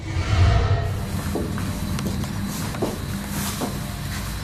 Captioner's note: foot steps